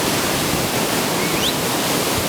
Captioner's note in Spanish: chiflido